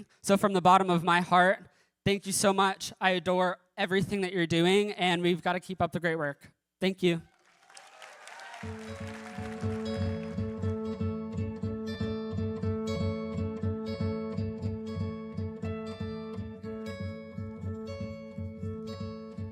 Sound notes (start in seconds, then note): 7.2 applause and cheering